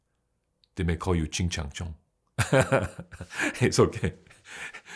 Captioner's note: laughs